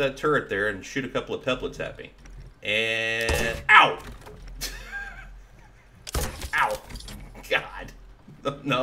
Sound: laughing

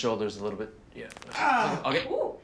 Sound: bones crack

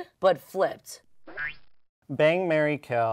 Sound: audio boings

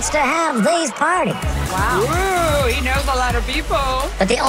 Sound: imitating Jerry Seinfeld

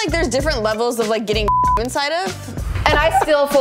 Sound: beep

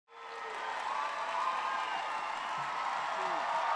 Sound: audience cheering

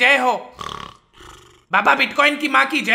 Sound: sleeping Sound

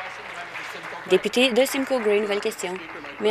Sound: applause

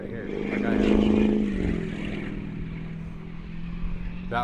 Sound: loud car passes

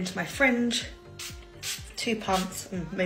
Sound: spraying product

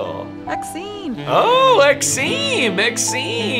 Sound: Sim language

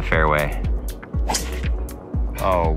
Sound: ball thwacking

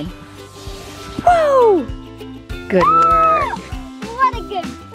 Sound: cheers

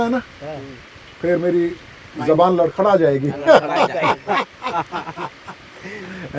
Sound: laughs

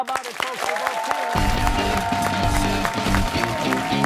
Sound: applause

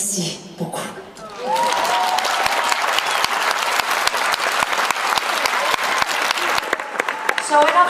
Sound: applause

